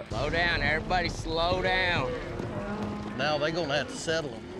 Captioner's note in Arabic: خوار الأبقار